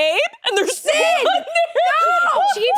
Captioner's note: laughs